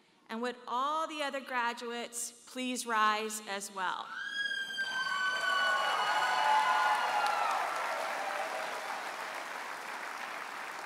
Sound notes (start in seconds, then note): 4.9 audience member hollers; 6.3 audience applauds and cheers